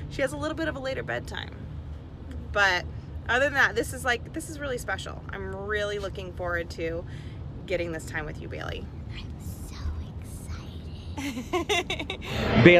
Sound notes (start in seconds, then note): 10.2 whispering; 11.1 mom laughing